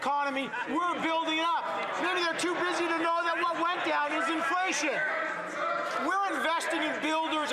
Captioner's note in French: voix de l'interprète